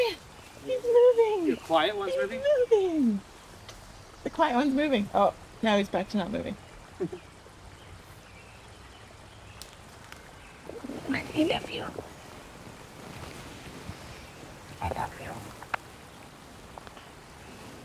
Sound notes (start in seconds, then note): 12.2 whispers